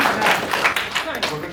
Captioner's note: applause